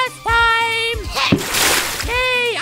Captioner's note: splash